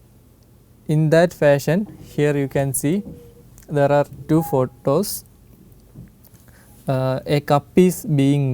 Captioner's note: printer